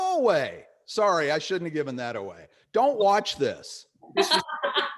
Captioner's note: laughing